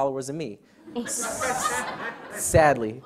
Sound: audience laughs

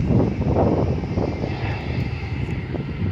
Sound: wind blowing

